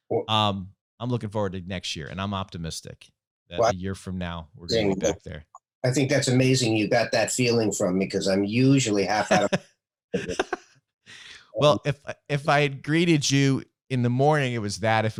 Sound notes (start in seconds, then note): 8.9 laughs